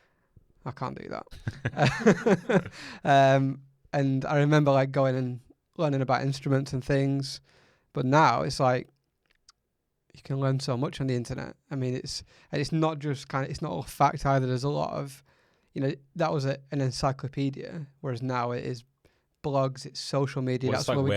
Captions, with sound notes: - Yes, I can't do that. (laughs) And I remember like going and learning about instruments and things but now it's like you can learn so much on the internet. I mean, it's, it's not just kind of, it's not a fact either. There's a lot of, you know, that was an encyclopedia whereas now it is blogs, social media.